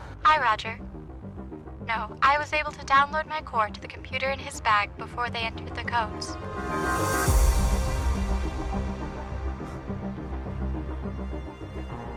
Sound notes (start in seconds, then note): 8.7 dreamy electronic music; 9.9 chuckles